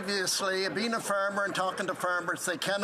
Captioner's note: some Applause